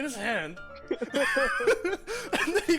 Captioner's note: even more laughter